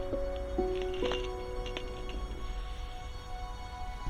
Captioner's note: chain rattles